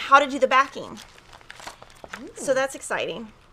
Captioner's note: pages rustling